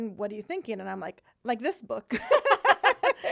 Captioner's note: laughing